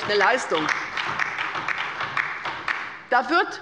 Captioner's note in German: Beifall bei der LINKEN und der SPD sowie bei Abgeordneten der CDU